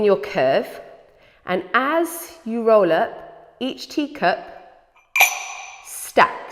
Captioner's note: clink